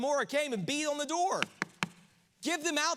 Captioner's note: hand knocks